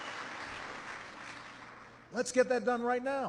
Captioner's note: applause